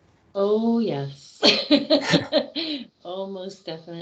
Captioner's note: laughing